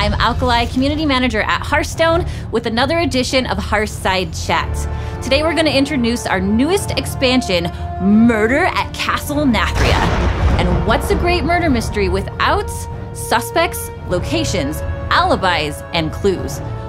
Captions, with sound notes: I'm Alkali, Community Manager at Hearthstone, with another edition of Hearthside Chat. Today we're going to introduce our newest expansion, Murder at Castle Nathria. -[thunder crashes] -And what's a great murder mystery without suspects, locations, alibis and clues?